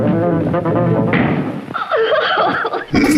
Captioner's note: door slams; cries